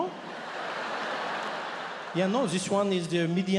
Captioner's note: audience laughs